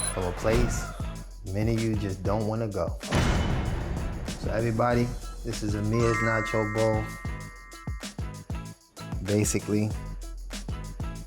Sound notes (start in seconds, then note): 3.1 door slams